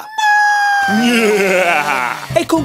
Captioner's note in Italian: risata malvagia